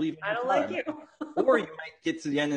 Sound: laughs

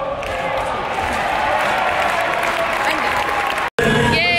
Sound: crowd clapping and cheering

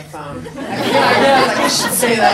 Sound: people laugh

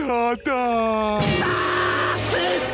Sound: screaming

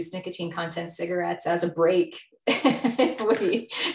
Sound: laughs

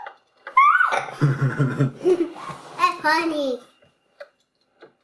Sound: laughing

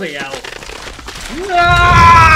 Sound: cracking

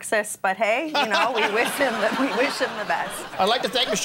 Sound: laughing

